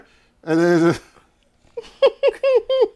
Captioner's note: laughter